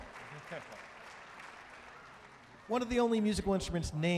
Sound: audience cheering and applauding

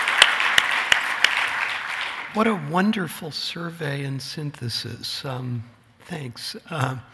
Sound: applause

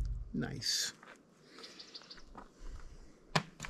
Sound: inhales the pine freshness

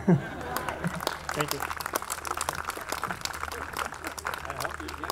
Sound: laughs; audience clapping

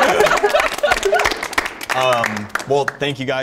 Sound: participants clapping

